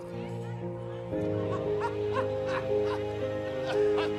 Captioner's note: background chattering